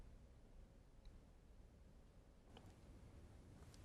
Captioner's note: whispering